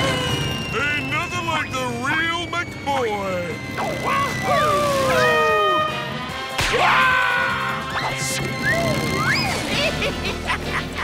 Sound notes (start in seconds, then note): 4.2 air horn blaring; 6.6 screaming; 8.6 laughing